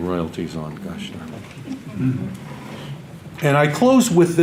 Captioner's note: audience laughter